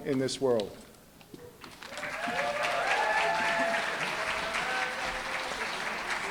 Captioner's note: applause, cheering